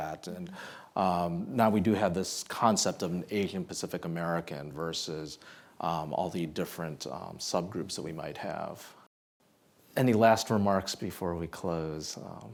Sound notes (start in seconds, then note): none